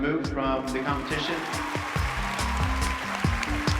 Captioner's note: applause